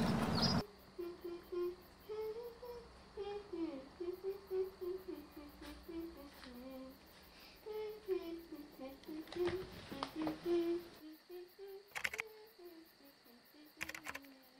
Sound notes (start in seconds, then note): 0.0 Keke humming; 11.8 keys tapping